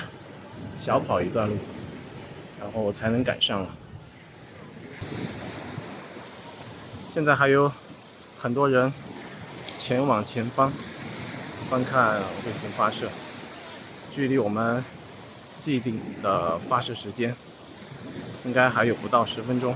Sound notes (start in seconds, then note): 0.0 英语; 2.9 英语; 9.9 英语; 12.7 英语; 16.4 英语; 19.2 英语